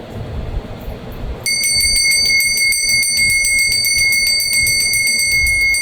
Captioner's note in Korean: 종소리